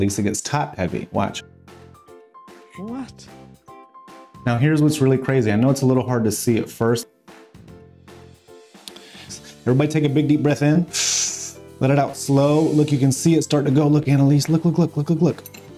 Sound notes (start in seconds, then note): 1.8 upbeat music continues; 11.4 inhales